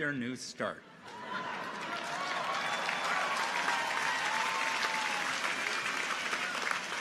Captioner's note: audience applauds; audience laughs